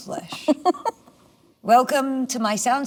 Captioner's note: Melanie laughs